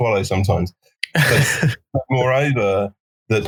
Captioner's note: laughing